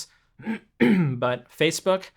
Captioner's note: clearing throat